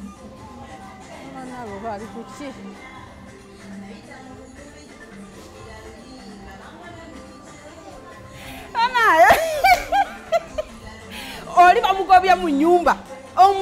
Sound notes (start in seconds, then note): 8.6 Maama Nalu enters laughing hysterically